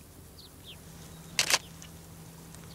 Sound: camera clicks

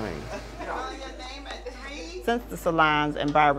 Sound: television

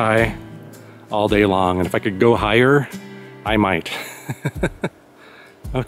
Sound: laughs

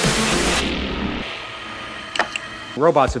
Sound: motor Sound. Click, Click Sound

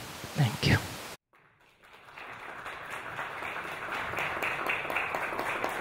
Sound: audience applauds

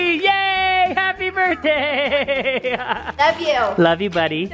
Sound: laughing

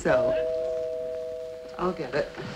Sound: doorbell ringing

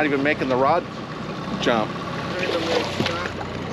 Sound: fish splashing

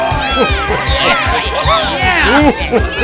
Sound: cheers

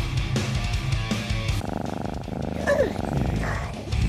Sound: catnap purring 🥺

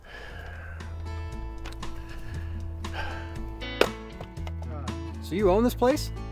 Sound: soothing music; axe thumping

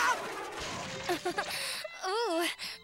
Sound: giggles

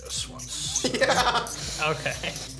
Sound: laughs

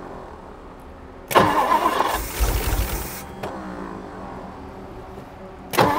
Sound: engine struggling to start

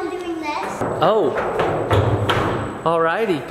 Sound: footsteps thumping

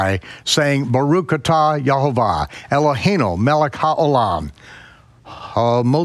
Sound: speaking in foreign language

